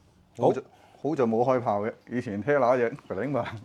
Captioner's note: laughs